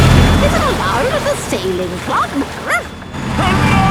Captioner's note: barks